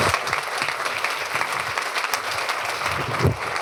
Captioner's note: applause